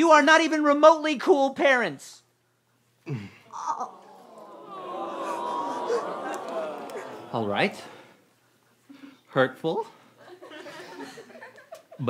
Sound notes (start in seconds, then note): 3.5 groaning